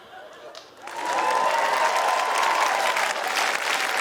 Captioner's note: cheering, applause